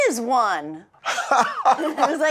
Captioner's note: laughing